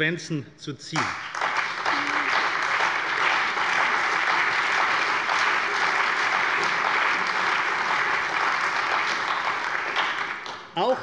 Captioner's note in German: Allgemeiner Beifall